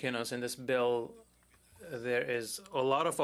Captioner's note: speaking French